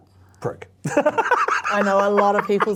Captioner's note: laughs